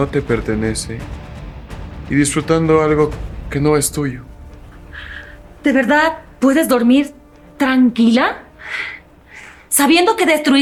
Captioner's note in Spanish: suspiro